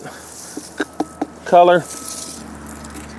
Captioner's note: knuckles tapping